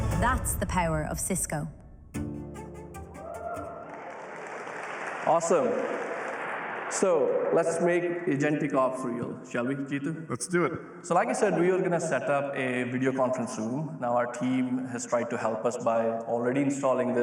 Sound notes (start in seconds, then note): 3.5 applause